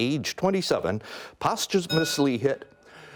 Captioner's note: bell rings